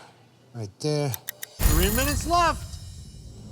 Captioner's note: timer ringing